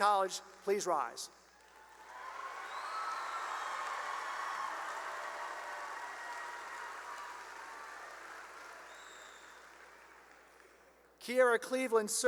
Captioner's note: cheering and applause